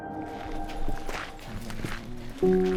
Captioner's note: leaves rustling; peaceful music